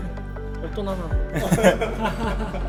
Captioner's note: laughs